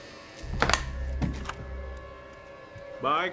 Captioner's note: door clicks